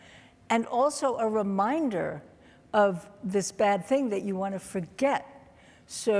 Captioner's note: none